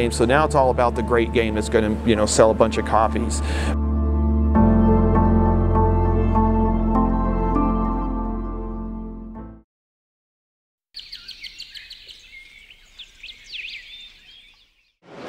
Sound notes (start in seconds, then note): 4.0 light electronic music; 10.9 birds chirping